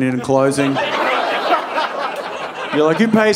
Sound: audience laughing

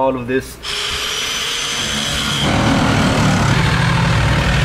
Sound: saw whirring

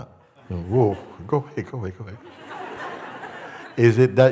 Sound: laughter

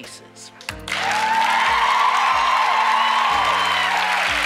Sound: applause

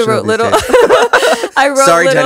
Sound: both laughing

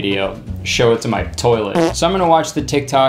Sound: farting

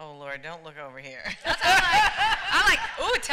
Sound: laughter

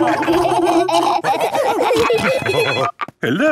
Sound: laughing; phone ringing

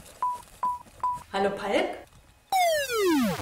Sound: low battery beep

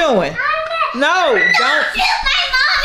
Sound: screaming

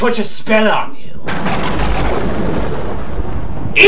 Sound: thunder sound that ngl scared the shit outta me

